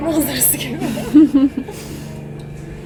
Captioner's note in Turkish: gülüşmeler